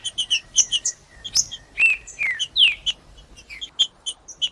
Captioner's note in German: trinca ferro cantando